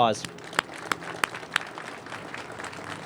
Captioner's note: applause